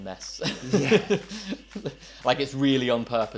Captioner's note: laughing